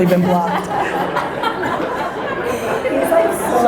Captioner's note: audience laughter